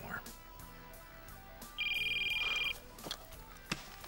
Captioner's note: phone ringing